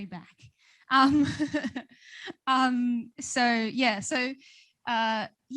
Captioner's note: laughs